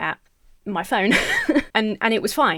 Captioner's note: Emma laughs